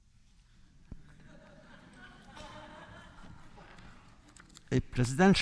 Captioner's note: laughter